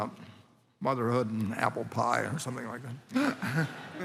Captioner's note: laughter